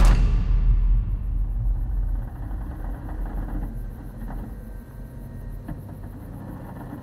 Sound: crickets chirping; wood creaking

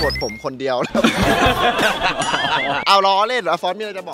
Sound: laughs

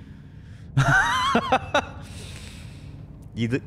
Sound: nervous laughter

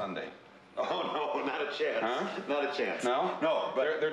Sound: laughs

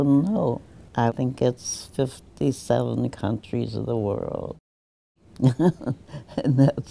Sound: laughs

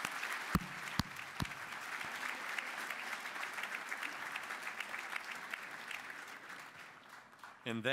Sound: applause

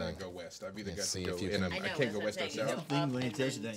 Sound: group murmuring

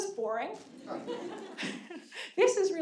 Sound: audience laughing

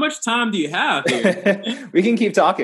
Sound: laughs

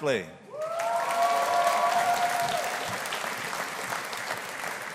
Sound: audience applauding

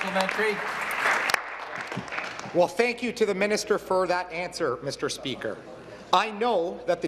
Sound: applause

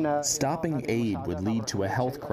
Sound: through translator

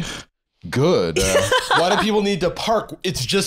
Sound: laughing

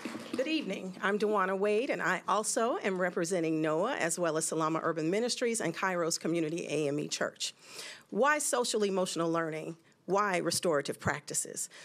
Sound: applause

